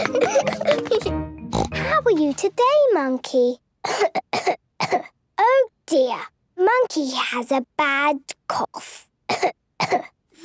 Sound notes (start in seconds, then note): 1.5 snort; 3.8 she pretends to cough; 9.8 pretending to cough